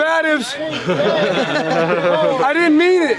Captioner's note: everyone laughing